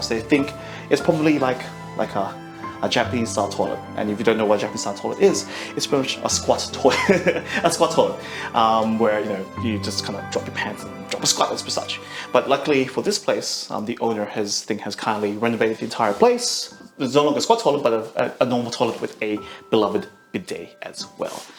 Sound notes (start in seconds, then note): 6.8 laughs